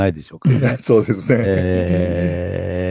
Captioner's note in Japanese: 咳払い